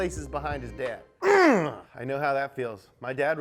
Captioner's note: grunts angrily